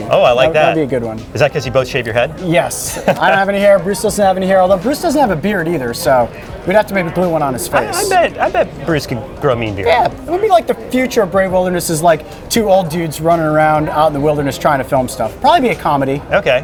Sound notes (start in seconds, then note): 2.8 laughing